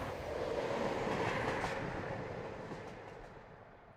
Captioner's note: train rumbling